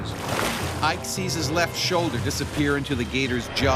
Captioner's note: voiceover